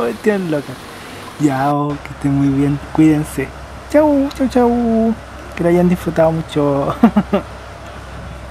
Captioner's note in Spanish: risas